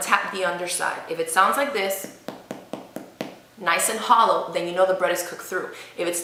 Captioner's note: tapping